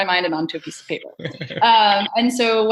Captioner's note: laughs